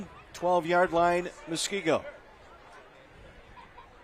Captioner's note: laughter